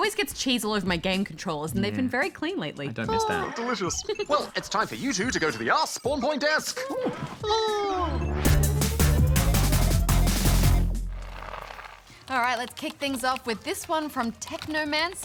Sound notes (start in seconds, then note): 0.2 laughs; 0.8 funky music; 3.1 sighs